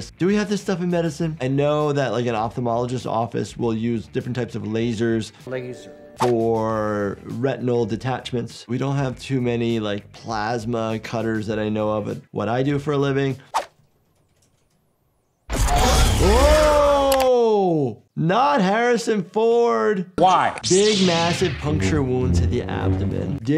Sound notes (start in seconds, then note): 15.5 lightsaber powering up